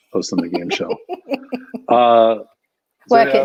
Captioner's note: laughing